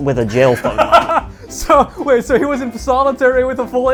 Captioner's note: laughing